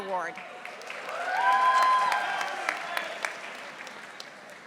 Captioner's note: audience applauding